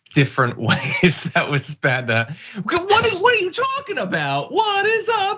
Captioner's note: laugh